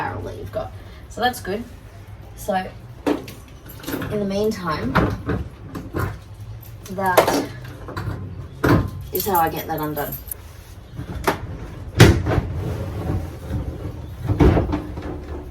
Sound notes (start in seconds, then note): 3.3 keys clatter in roof pod; 5.5 more clattery thumps; 10.5 heavy plastic lid makes scraping, bumping, and sliding noises as it opens